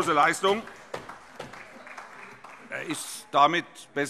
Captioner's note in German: Vereinzelter Beifall